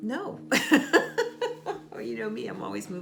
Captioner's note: chuckles